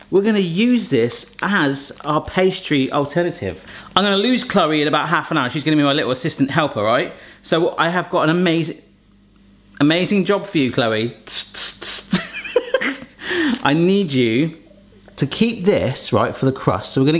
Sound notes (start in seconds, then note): 11.2 airing up sounds; 11.9 man laughs